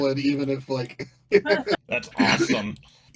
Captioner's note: laughing